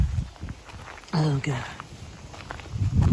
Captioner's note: none